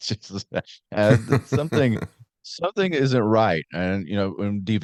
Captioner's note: laughing